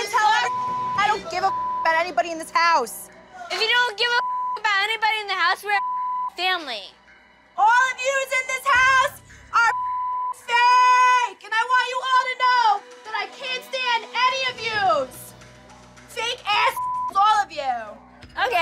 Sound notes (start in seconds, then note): 0.4 beep; 5.7 beep; 7.8 yelling; 9.6 beep; 16.7 beep